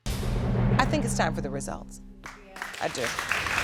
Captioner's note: audience applauding